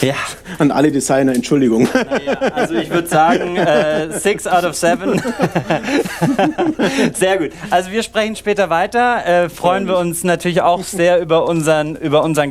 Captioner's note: laughing; laughing